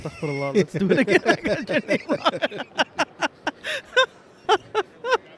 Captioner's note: laughter